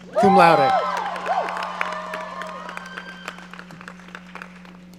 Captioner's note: audience cheering